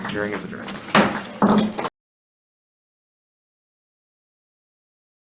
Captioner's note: gavel bangs